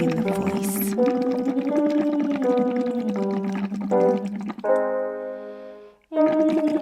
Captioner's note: piano scales continue; humming continues